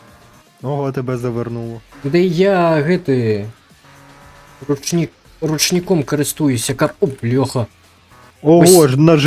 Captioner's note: handbrake